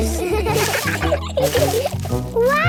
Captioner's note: laughter